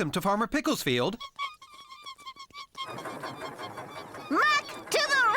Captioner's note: squeaking